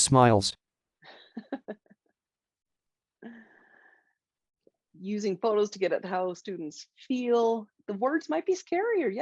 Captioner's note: chuckles